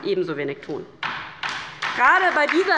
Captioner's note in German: Beifall bei der LINKEN